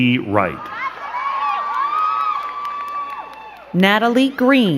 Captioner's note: crowd cheering and clapping